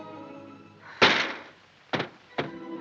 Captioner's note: window slamming